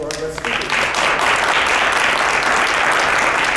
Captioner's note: clapping